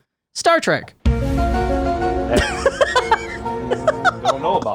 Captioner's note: upbeat music; laughing